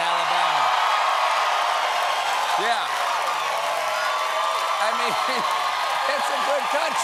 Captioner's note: cheers and applause